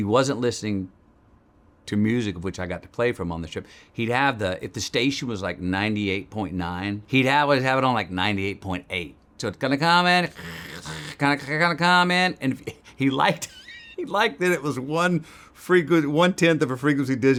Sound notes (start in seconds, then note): 9.6 Matthew imitating static